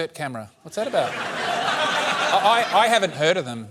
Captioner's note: laughter